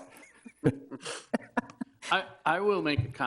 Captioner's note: laughs